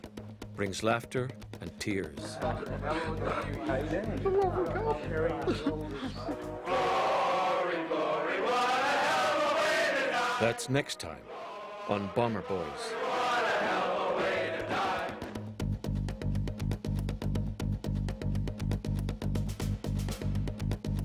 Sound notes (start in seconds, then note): 10.6 voiceover